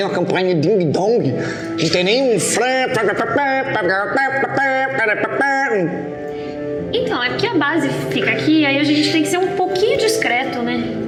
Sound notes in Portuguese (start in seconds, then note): 2.8 imita um trompete